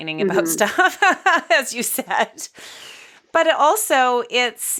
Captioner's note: laughing